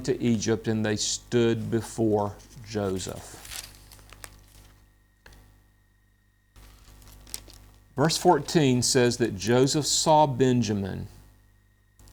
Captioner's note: paper rustles